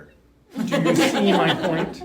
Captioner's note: laughing